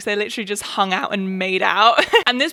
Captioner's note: laughs